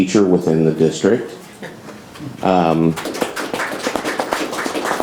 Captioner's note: audience applauds